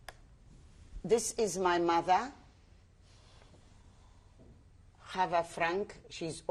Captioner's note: pauses for 3 seconds